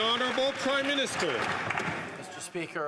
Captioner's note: some Applause